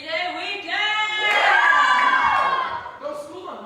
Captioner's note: cheers